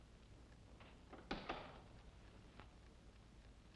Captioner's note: door closes